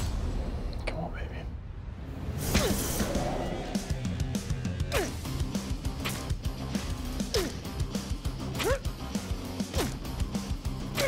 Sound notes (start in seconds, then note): 2.5 hardcore music; 7.3 grunting